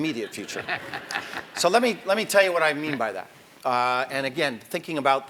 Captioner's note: laugh